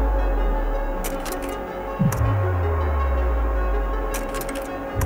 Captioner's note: slides clicking; electronic interference buzzing